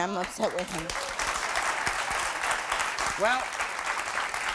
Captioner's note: applause